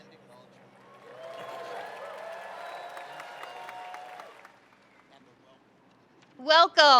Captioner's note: audience cheering and applauding